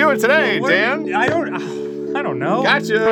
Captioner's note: exasperated sigh